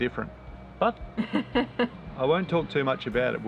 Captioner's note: laughs